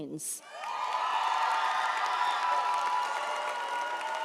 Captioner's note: audience applauds